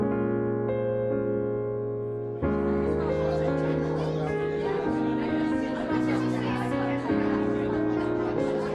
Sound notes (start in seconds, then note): 2.4 lively crowd chatter